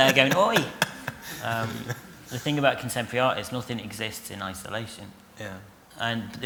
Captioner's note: laughter